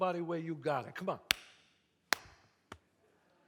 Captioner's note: claps